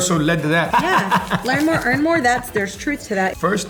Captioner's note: laughter